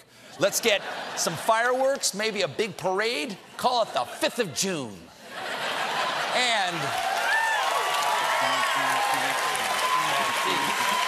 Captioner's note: cheers and applause